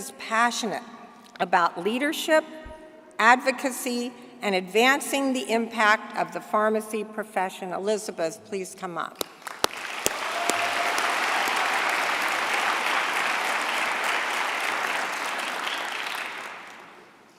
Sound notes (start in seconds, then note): 9.6 applause